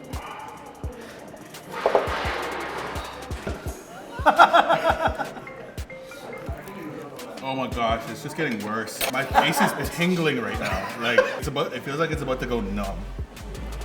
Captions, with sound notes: (laughing) - Oh my gosh, it's just getting worse. My face is tingling right now, like it feels like it's about to go numb.